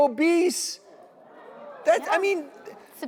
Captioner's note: audience murmurs